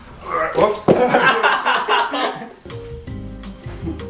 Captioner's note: grunts; laughing